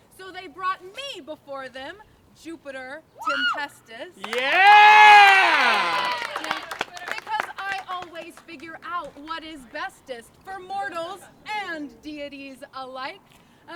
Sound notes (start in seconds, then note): 4.2 rowdy cheers